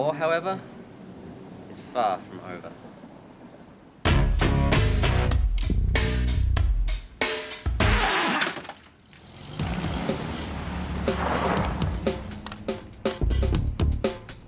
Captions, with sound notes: The war however, is far from over. (dramatic music) (record scratching) - Ah! (suspenseful music)